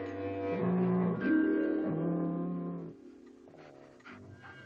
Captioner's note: dog growling